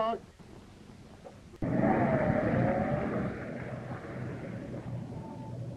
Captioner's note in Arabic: هدير المحرك